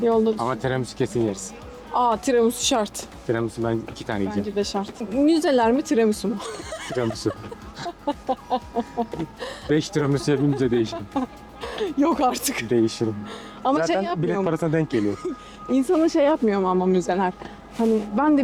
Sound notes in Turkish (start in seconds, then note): 6.3 kahkaha